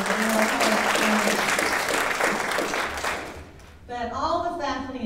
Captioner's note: audience applauding drowns out speaker